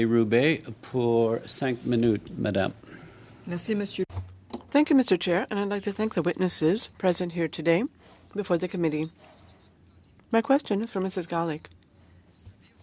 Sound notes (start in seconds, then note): 10.7 speaking French